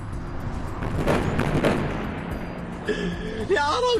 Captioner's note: bombs exploding